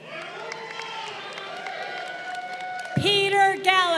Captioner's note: crowd cheering